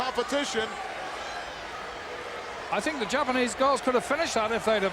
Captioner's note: applause